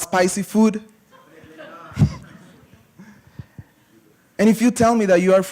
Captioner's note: laughter